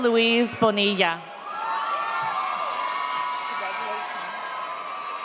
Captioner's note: audience cheers